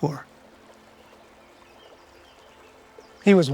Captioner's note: birds chirping; water rustling